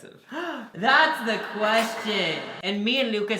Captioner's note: echoing